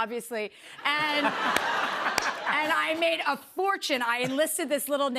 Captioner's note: laughter